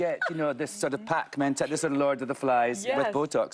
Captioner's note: laughter